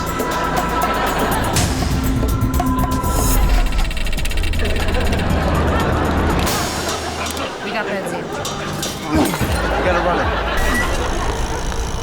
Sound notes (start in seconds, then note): 0.1 chuckling and laughter from audience; 8.6 grunting and glass shattering